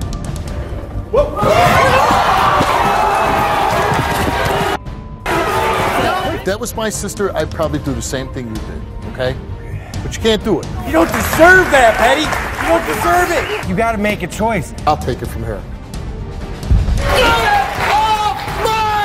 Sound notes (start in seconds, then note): 1.2 audience shouts